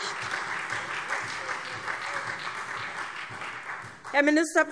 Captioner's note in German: Beifall SPD, Freie Demokraten und DIE LINKE